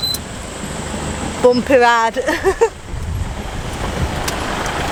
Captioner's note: engine sound and Chatter; in funny accent; laughs